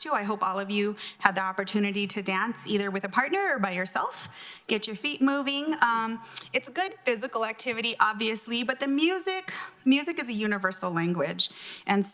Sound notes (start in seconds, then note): none